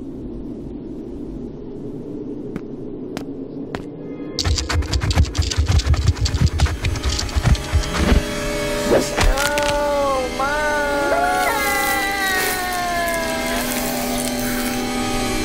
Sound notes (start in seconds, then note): 4.4 scorpion scurries; 4.4 dramatic music; 10.7 McJennifer cries out